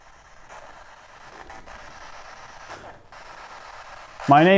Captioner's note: radio static